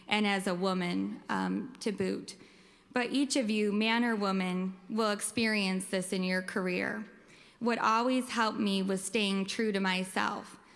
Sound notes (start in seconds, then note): none